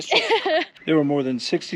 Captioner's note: laughing